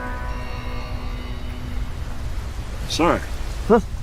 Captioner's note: siren wailing